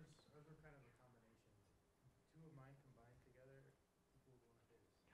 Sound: student speaking faintly

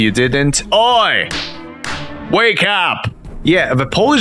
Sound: Deidranna slapping Elliot in JA2

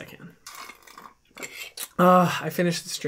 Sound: slurping

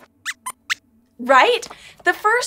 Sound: squeaks answers

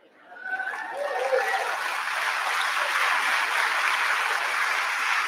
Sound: audience applauding

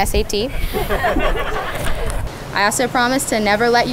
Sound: laughter

